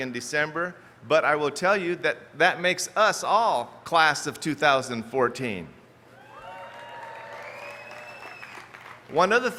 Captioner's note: cheers